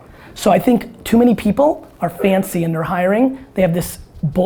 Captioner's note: none